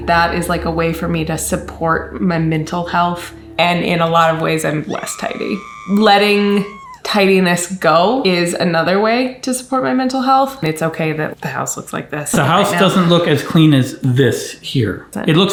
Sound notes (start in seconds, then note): 4.7 woman screaming